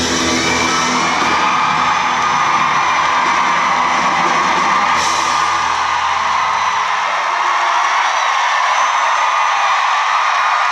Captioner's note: cheering